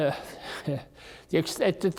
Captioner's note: chuckles